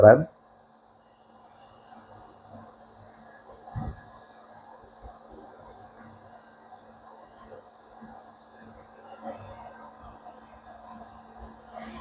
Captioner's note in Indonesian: printing